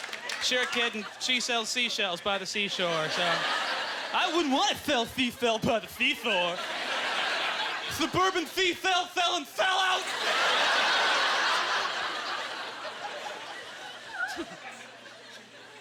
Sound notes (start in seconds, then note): 0.0 audience laughter; 3.6 lisps; 9.8 audience laughter